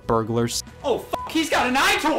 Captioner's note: beep